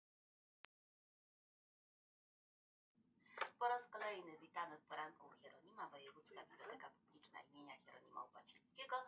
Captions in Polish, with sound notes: [głos z telewizora] „Po raz kolejny witamy w „Poranku u Hieronima" Wojewódzka Biblioteka Publiczna im. Hieronima Łopacińskiego